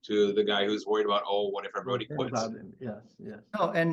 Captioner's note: speaks faintly